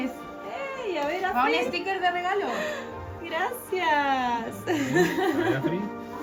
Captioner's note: laughs